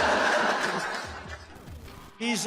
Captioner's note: laughing